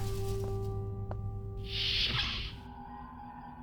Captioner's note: door closes